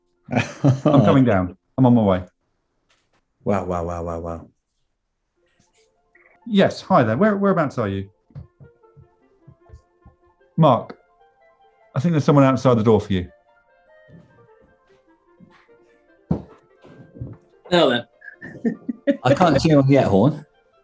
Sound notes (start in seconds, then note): 0.3 laughing; 18.2 giggling